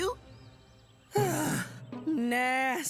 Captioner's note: Mike Sighing